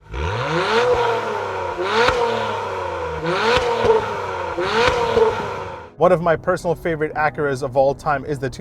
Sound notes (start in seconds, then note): 0.0 engine revs